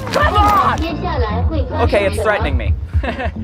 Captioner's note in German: Auto spricht auf Mandarin